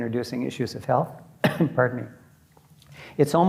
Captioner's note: coughs